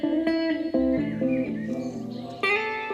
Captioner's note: birds twitter